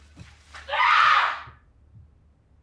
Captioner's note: screams